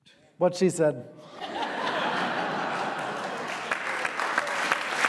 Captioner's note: audience laughing; audience applauding